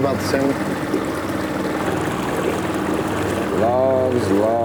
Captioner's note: motor puttering; water splashing